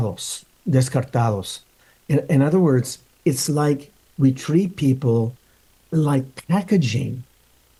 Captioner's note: speaking in Spanish